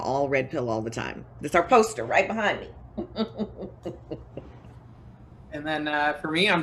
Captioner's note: chuckles